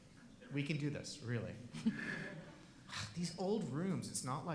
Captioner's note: laughing